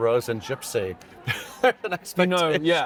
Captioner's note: laughs